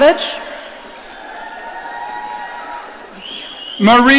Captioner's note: audience cheering